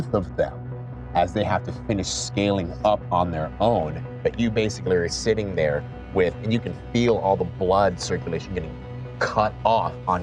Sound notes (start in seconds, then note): none